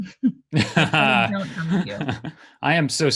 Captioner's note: Adam's laugh downs out Marah